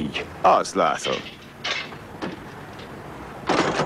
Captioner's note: metal clanging